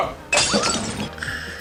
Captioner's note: glass shatters